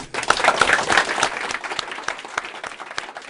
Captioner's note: applause